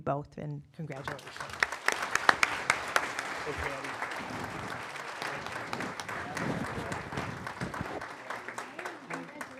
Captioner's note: applause